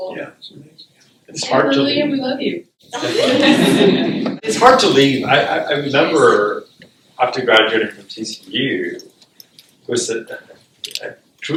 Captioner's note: laughter